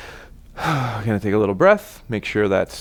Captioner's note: exhales